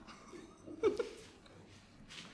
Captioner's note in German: lacht